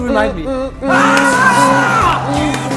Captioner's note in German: Schreie